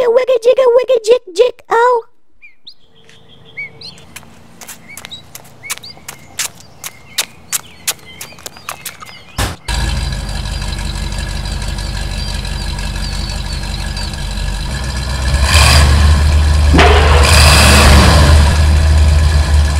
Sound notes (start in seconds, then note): 3.8 footsteps; 9.4 door slam; 9.7 engine starts; 10.2 engine sound; 15.3 engine revs; 15.3 slam